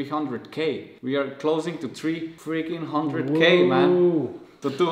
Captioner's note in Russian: Ууууууууууу